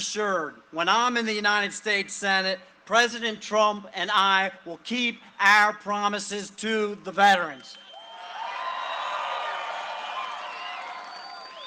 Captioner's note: cheering and applause